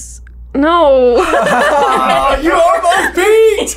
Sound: laughter

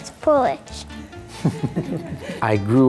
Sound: chuckling

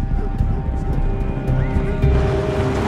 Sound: dogs barking; vehicles roaring

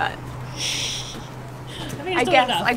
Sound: chuckles

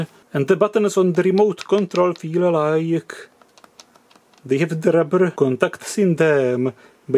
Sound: buttons clicking

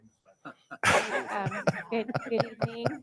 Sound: board members laugh

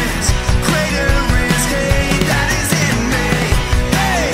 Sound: none

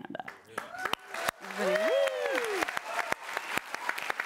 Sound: applause

